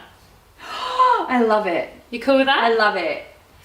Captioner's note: gasping